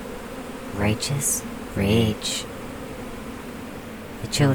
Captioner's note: the bee swarm settles